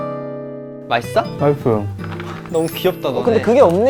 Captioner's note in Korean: 옴뇸뇸